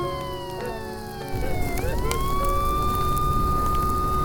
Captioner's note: fire raging; police sirens blaring